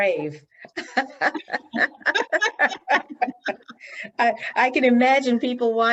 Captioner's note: both laughing